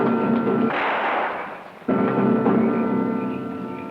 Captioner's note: gun fires